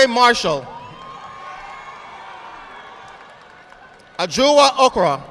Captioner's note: audience applauding